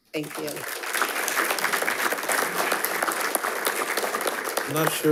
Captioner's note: attendees applauding